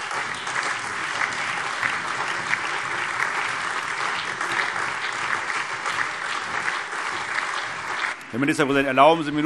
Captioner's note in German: Allgemeiner Beifall